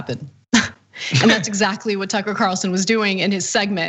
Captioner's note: laugh